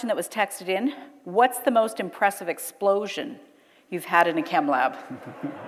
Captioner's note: audience laughter